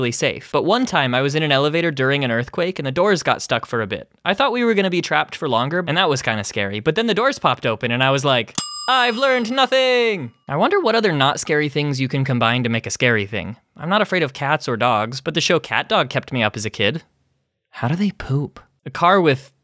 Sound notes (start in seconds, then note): 8.5 ding